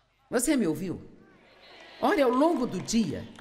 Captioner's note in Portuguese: audiência aplaude